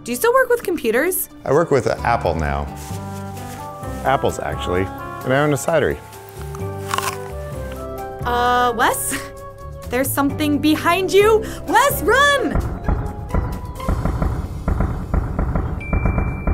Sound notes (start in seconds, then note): 5.9 crunching; 12.3 pounding